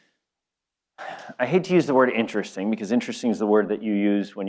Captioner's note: sighs